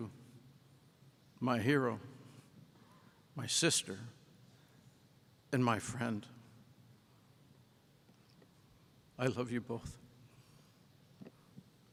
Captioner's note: silence